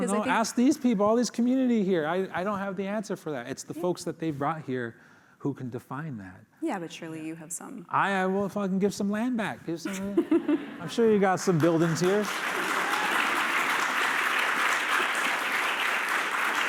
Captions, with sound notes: Ask these people, all these community here. I don't have the answer for that. It's the folks that they've brought here who can define that. - Yeah, but surely, you have some-- - I will fucking give some land back. Give some-- I'm sure you got some buildings here. [applause]